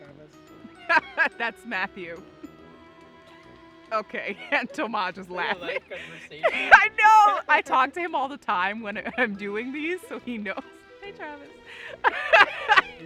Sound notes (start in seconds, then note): 2.9 laughing